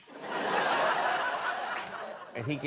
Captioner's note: laughter